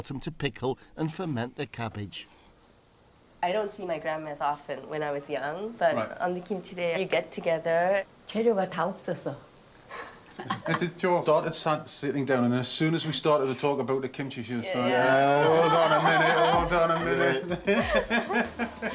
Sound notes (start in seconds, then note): 9.3 laughs; 9.3 speaking Korean